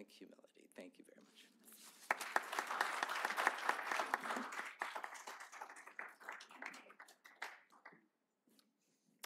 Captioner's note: applause